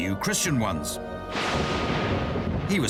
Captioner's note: thunder